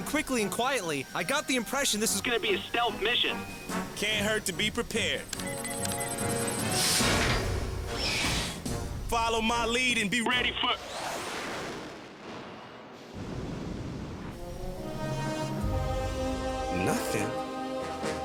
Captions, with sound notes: BUT WHEN THE CAPTAIN SAID TO GO IN QUICKLY AND QUIETLY, I GOT THE IMPRESSION THIS WAS GONNA BE A STEALTH MISSION. CAN'T HURT TO BE PREPARED. (BUTTONS BEEP) (GEARS CLUNK AND WHIR) FOLLOW MY LEAD AND BE READY FOR... NOTHING?